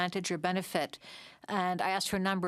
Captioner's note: speaking French